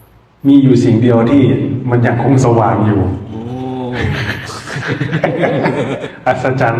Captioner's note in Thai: เสียงหัวเราะ